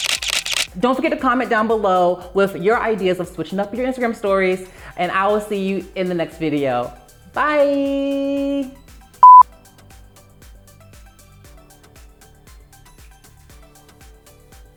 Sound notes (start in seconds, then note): 9.2 beep